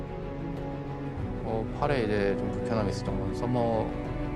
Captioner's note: Faker speaking Korean